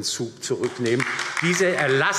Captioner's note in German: Beifall DIE LINKE